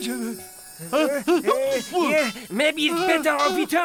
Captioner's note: all sneezing